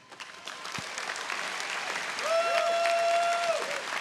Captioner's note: audience applauding